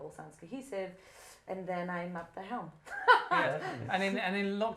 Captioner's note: laughter